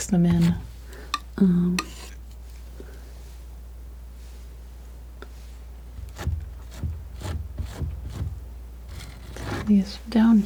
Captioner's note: tapping